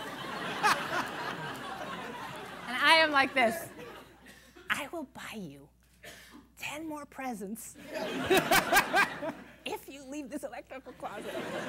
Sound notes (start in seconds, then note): 0.0 laughter; 4.6 half-whispering; 9.6 laughter